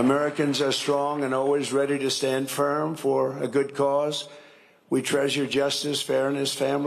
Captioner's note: cheering and applause